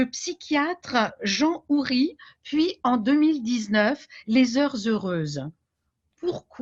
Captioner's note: speaking French